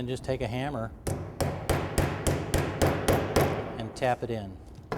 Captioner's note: bang, bang, bang